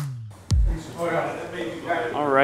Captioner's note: upbeat music; people chattering